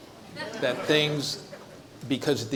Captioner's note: audience chuckles